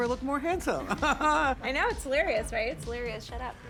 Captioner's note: chuckles